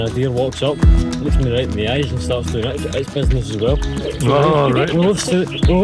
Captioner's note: laughter